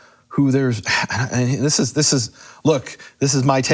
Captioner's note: stuttering